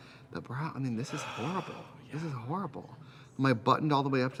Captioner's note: Katya sighs